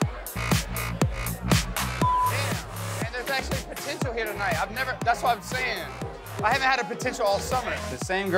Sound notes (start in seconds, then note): 2.0 beep